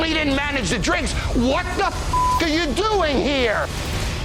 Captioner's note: beep